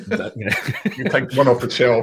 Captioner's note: laughing